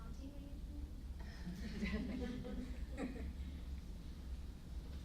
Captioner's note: laughs